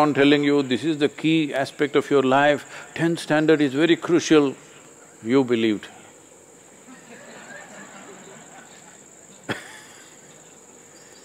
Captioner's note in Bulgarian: Смях